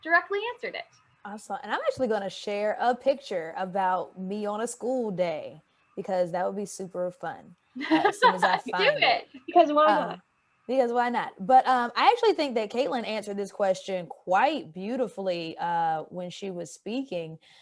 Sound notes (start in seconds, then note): 7.8 laughs